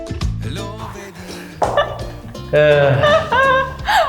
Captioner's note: laughing